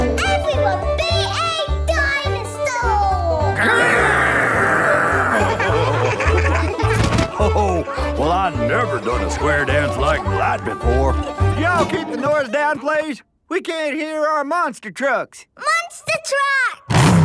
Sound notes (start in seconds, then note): 3.5 laughing